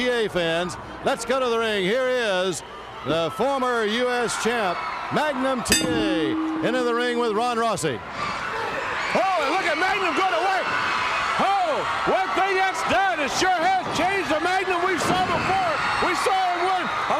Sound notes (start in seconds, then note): 5.7 bell ringing